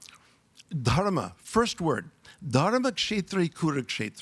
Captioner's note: speaks in foreign language